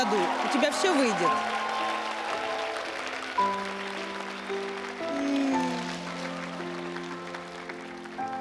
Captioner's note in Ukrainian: оплески